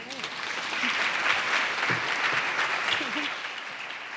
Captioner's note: audience clapping